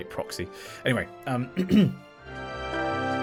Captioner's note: ahem